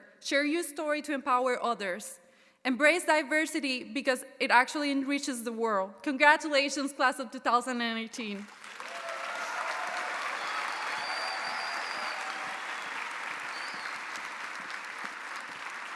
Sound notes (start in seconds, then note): 8.4 audience applauding; 8.5 audience cheering